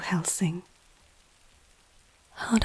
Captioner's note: close to the Microphone whispering